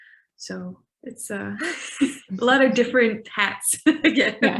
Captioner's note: laughing